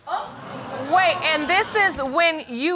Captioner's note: audience exclaiming